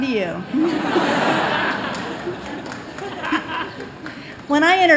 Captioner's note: laughter